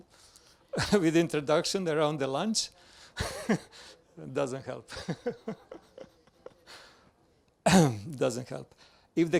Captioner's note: laughs